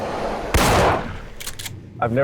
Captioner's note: gunshots fired